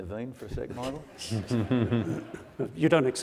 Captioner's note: audience laughs